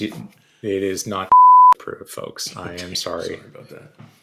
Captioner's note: beeeep